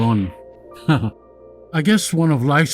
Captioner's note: chuckles